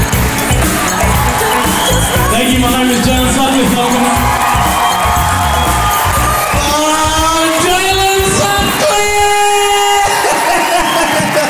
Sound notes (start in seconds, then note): 4.8 crowd applauds